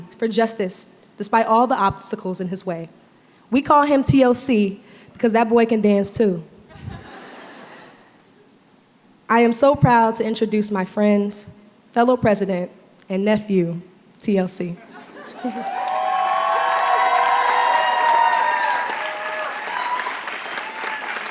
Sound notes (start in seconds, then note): 15.4 applause